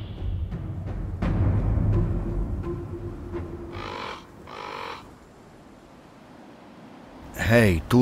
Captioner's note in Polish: Krakanie kruków